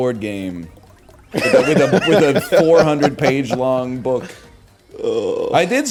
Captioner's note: laughs